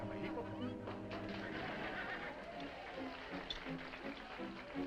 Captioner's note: dramatic music; all applauding